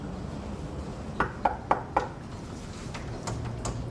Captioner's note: knocking